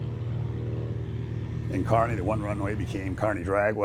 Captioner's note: plane engine roaring